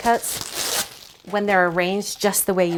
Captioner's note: plastic rattling